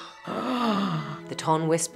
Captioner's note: both gasping